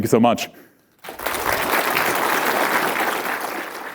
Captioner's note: applause